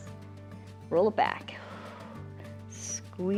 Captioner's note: exhales